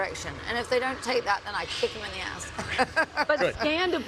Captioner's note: laugh